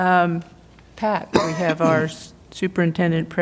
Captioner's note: laughter